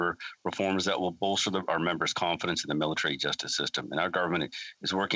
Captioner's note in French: voix de l'interprète